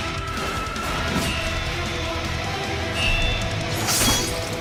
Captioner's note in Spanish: Neumáticos chirriando; Silvido de cuchilla; Corte de hoja